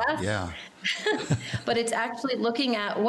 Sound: laughing

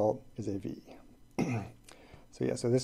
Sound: clears throat

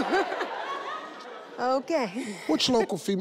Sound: laughs

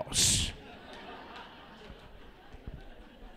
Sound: laughter

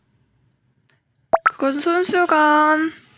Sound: peeing

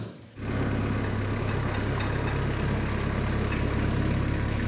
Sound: skid steer engine whirring

